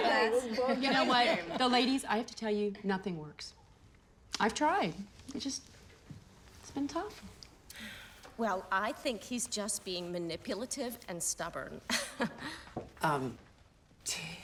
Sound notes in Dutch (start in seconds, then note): 11.8 lacht